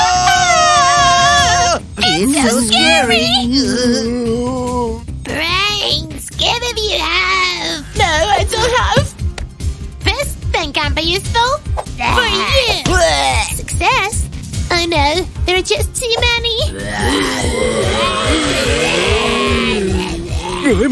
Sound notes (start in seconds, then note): 12.0 growl and grunt